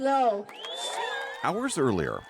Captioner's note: cheering and applause